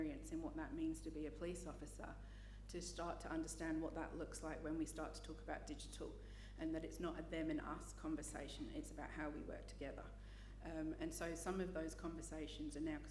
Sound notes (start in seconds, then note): none